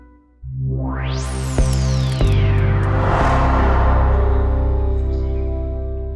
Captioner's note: logo reverberating and whooshing